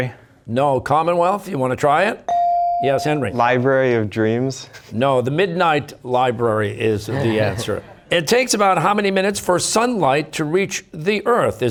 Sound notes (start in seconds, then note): 4.7 chuckling; 7.1 audience members chuckling